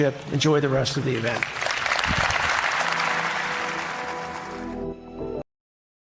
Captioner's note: applause